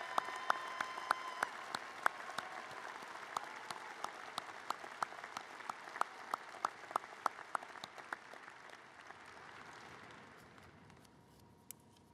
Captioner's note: applause